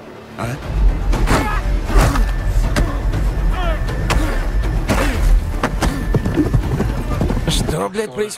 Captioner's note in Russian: Звуки махача